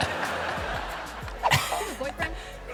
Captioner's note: laughing